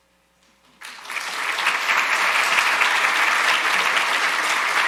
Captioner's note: audience applauding